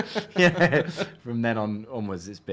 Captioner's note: laughing